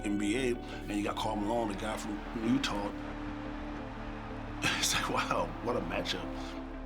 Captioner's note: laugh